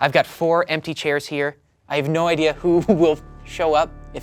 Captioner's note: chuckles